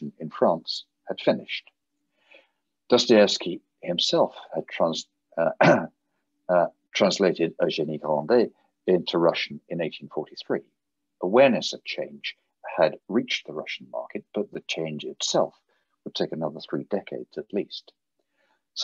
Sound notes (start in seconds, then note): 5.5 clears throat